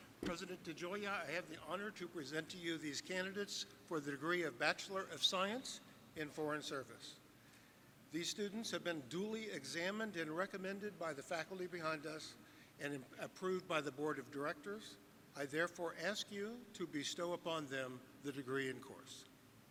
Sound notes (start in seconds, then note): none